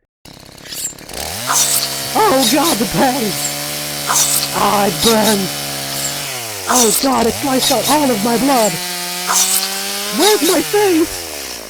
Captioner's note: the sound of slicing and screaming